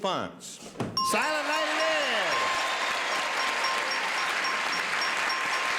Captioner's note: dinging